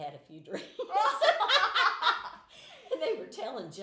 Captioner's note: laughing